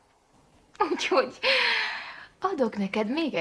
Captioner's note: laughing